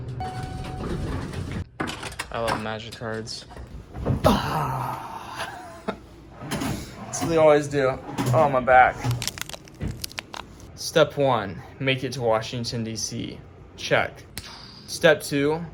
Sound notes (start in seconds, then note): 9.1 crack